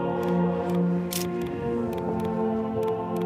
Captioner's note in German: Klicken